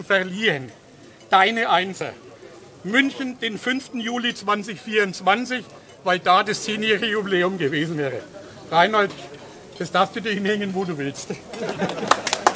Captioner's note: applause